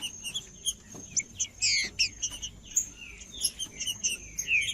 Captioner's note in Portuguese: trinca ferro cantando